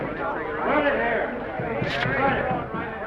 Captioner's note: puff